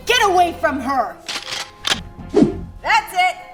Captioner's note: guns cocking